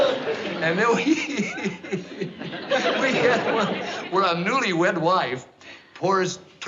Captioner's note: chuckles; laughs